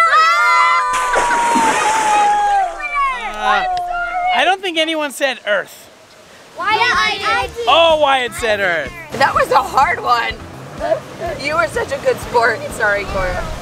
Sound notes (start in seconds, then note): 0.5 splash